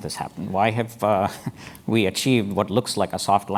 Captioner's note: laugh